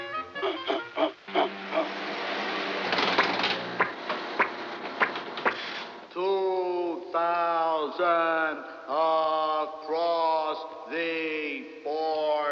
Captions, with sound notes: [snorting] [whirring] Two...thousand...across... the...board..